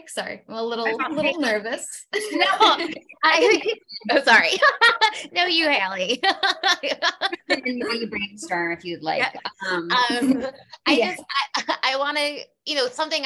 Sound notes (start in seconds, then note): 6.1 laughing